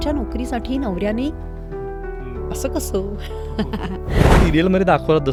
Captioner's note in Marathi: हास्य